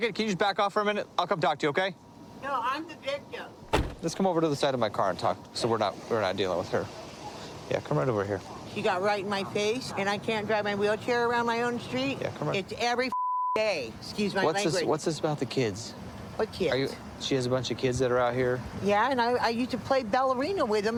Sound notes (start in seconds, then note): 3.6 car door closes; 13.1 beep